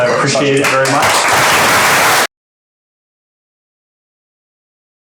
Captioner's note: applause